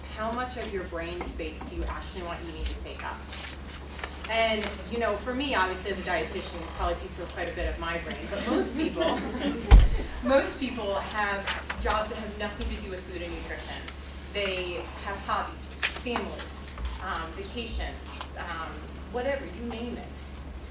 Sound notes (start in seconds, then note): 8.2 laughter